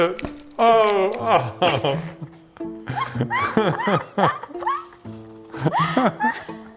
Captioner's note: both laughing